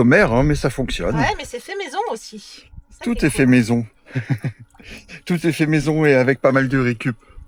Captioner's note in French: rires